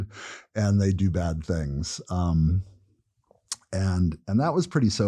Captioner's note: laugh